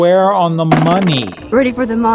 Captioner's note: dart hitting dartboard